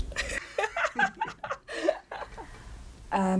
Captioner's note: laughs